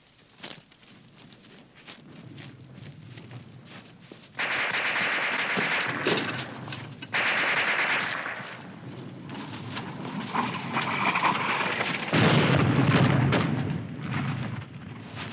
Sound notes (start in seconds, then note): 4.4 guns firing; 10.6 rustling winds; 12.0 bomb exploding